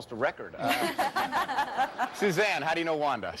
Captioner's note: laughter